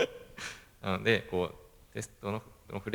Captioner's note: laugh